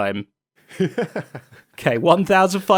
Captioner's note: laughs